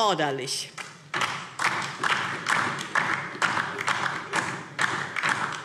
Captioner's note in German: Beifall DIE LINKE